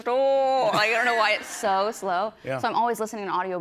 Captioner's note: normal voice